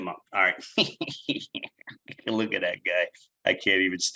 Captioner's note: chuckles